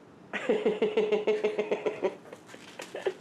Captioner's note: laughing